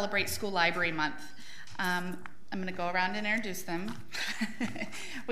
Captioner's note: laughs